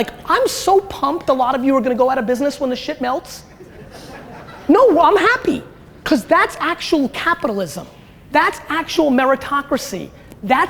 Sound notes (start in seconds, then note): 3.5 audience laughter